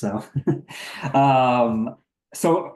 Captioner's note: chuckling